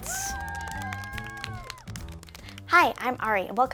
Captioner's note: audience cheering; upbeat music